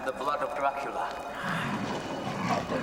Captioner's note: growls